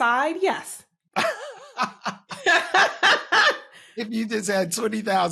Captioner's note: laughter